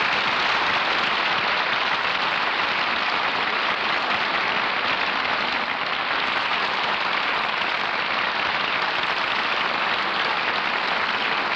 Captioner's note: applause